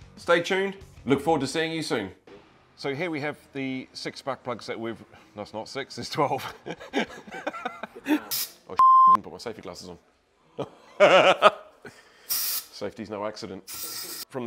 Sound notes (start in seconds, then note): 6.2 laughs; 8.8 beep; 10.6 laughs